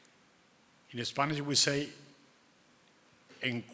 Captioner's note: speaking in foreign language